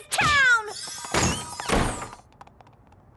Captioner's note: door slams